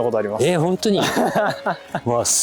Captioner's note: laughing